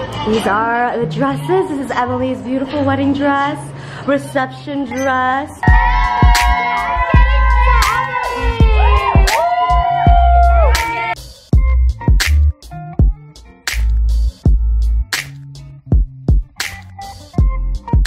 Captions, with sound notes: These are the dresses. This is Emily's beautiful wedding dress. Reception dress. (girls cheering) (chill lo-fi music)